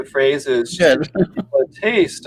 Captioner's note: chuckles